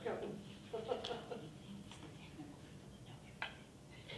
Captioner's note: laughing